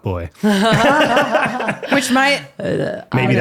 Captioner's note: laughing